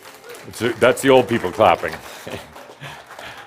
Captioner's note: he chuckles